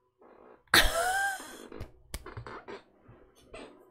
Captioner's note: laughs